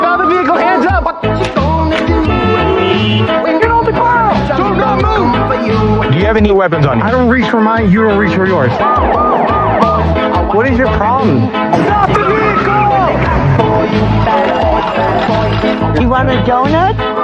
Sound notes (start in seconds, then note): 2.2 honkikingng; 8.4 siren waiiren wailin; 14.4 singing